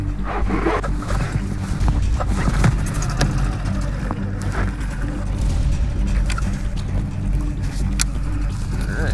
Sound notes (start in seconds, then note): 2.8 engine putters; 5.7 tense music